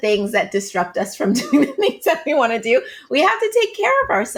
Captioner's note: laughing